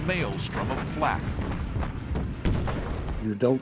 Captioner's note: explosions